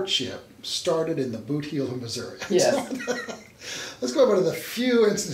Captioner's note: laughs